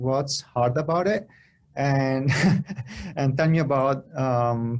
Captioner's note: laughter